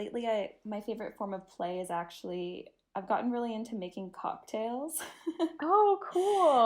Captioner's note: giggle